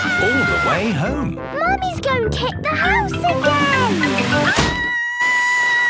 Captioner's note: Mummy Pig screaming